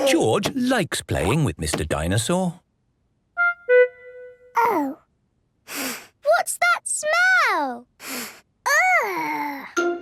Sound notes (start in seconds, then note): 5.9 sniffs